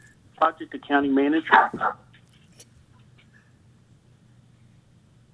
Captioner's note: dog barking